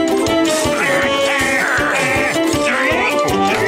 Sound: grunting

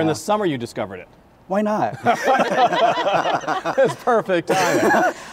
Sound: laughs

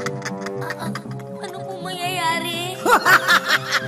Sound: evil laugh; shaky voice; laughs

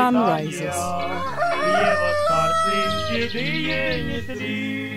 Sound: rooster crowing; upbeat music

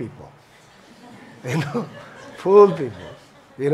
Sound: laughter

